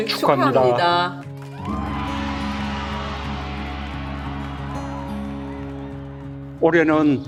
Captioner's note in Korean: 아이들의 박수와 환호성 소리